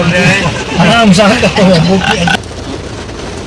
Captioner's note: good laugh